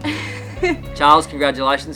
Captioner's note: laughing